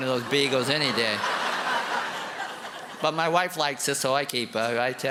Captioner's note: laughter and applause